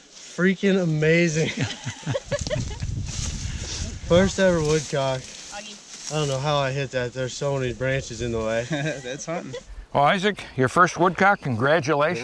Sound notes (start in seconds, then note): 1.4 laughing; 8.6 laughs